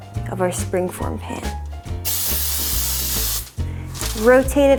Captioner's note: spraying sound